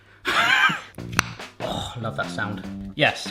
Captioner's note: laughs; jar opening